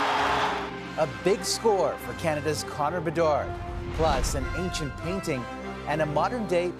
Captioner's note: cheering